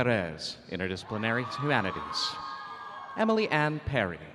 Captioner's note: audience cheering